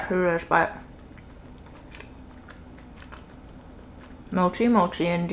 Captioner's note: chewing